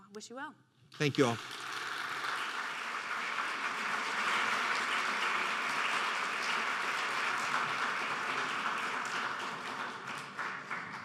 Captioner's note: applause